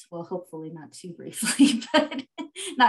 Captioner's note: laughs